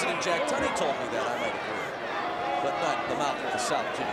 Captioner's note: speaks faintly